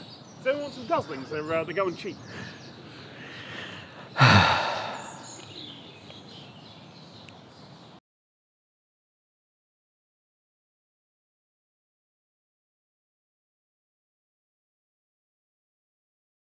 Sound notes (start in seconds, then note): 3.2 sighs off camera; 5.0 ambient bird sounds